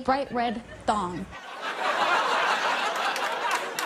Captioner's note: laughter and applause